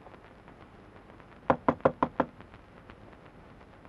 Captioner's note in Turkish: Kapı çalınma sesi